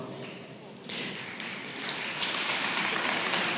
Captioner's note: applause